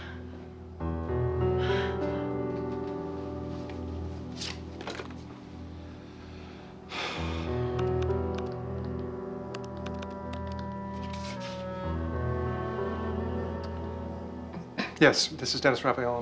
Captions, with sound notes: (BREATHING HEAVILY) (SIGHS) (DIALING PHONE) Yes, this is Dennis Raphael on Willow.